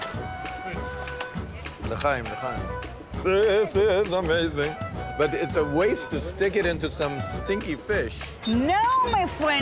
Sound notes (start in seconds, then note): 1.9 foreign language